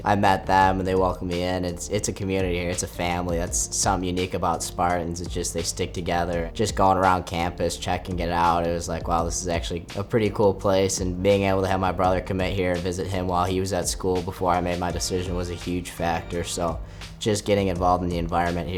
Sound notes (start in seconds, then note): none